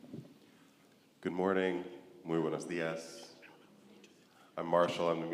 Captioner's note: speaks foreign language